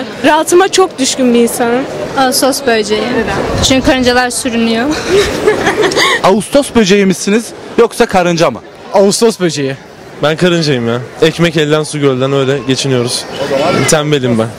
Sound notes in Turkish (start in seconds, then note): 4.9 Gülme sesi